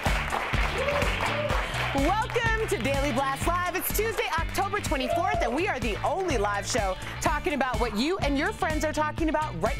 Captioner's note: applause and cheering